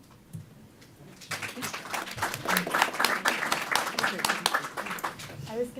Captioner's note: applause